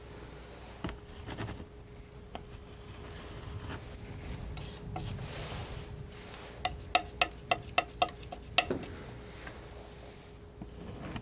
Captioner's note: scratching